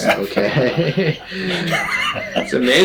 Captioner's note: both laughing